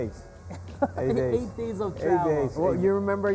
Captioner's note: laughs